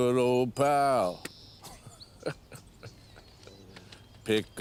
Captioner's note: laughs